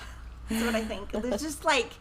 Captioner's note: both chuckle